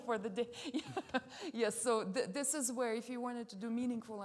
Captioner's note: chuckles